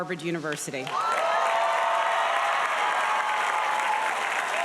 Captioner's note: audience applauding